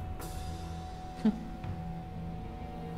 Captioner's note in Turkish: Gülme sesi